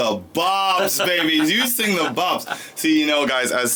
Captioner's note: laughing